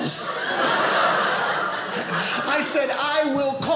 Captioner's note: audience laughing